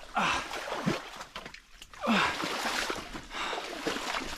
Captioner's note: grunting